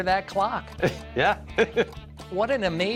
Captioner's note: chuckles